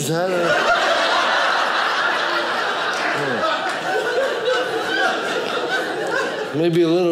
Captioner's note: audience laughing